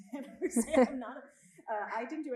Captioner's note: both laughing